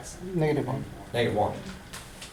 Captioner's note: voiceover